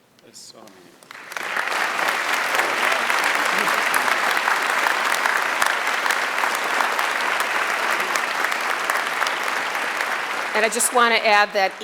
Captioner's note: applause